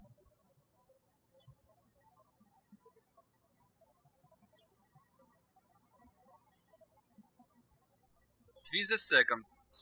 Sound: birds chirping

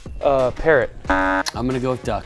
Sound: buzzer

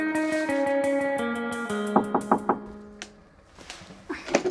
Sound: light pop music; knock on door

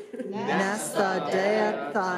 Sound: non-english speech

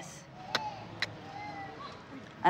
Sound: clicks tongue

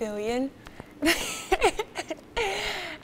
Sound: laughs

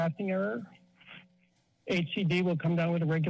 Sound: pause

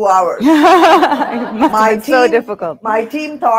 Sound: audience laughing

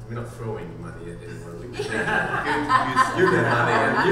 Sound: panel laughing

